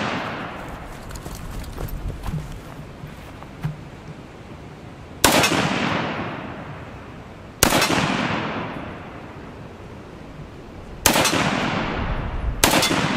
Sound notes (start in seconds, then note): 5.2 gun fires